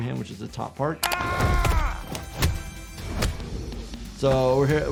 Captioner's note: characters grunting and yelling